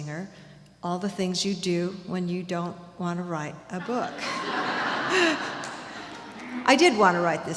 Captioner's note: laughter